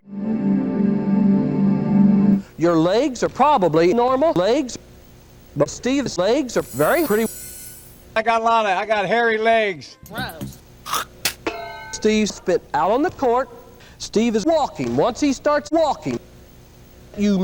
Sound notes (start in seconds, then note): 10.8 spitting sound